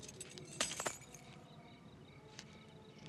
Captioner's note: drops keys